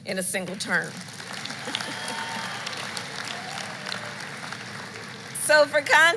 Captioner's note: applause